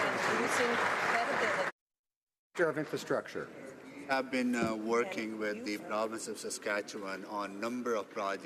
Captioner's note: some Applause